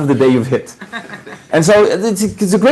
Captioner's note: laughing